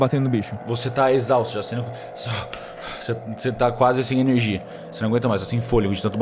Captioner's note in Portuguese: suspira